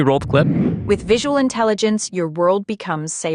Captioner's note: automated Voice